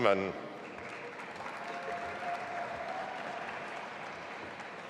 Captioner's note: audience applauding